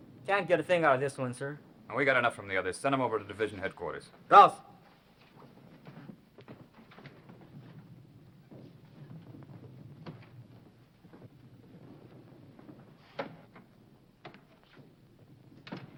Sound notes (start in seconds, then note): 4.4 speaking foreign language